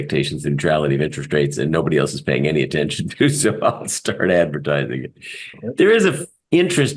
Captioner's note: laugh